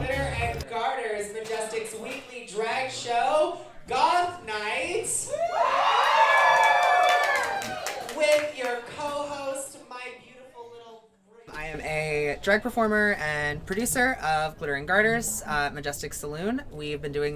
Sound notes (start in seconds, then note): 9.3 applause